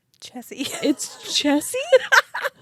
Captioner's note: laughs